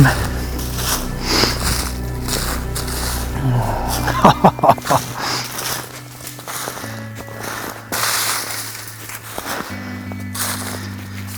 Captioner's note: sound of walking, music